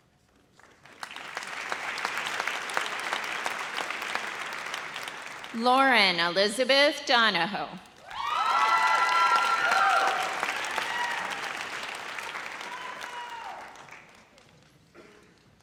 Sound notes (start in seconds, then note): 0.5 audience applauds; 8.0 audience cheers